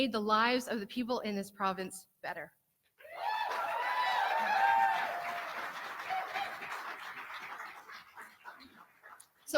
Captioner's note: cheering and clapping